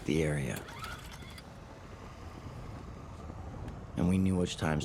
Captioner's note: chord zips